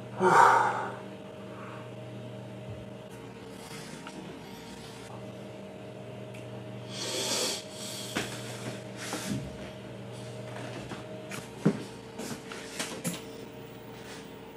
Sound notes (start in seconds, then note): 7.0 sighs; 12.8 TV turns on